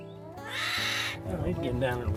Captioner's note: bear moans